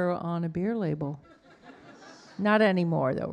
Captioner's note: audience laughing